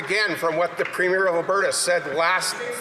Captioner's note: some Applause